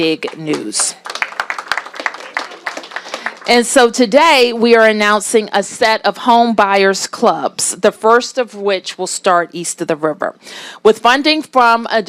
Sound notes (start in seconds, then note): 4.1 applause